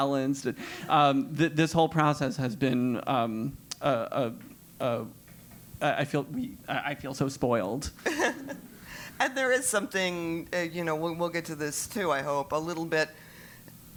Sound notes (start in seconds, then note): 8.0 laugh